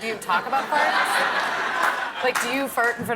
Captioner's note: laughter